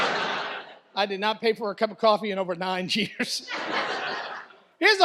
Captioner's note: audience laughs; laughter